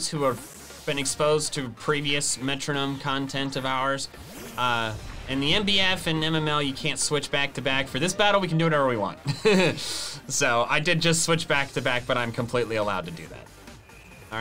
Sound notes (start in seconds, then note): 9.2 chuckles